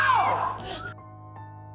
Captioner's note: shouting; June gasps